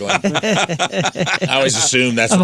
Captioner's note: laughing